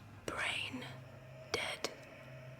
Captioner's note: whispered